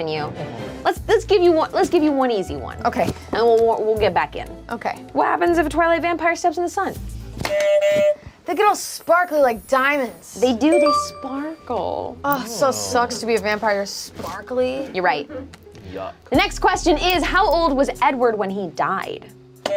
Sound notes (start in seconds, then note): 7.4 buzzer honks; 10.5 bell chimes